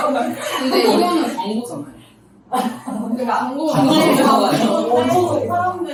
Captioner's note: laughs